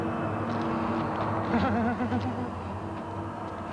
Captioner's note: giggling